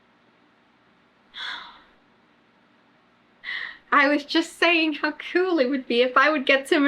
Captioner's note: laughs